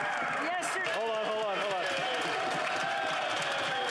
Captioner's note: applause